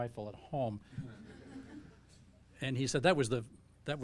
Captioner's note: audience laughing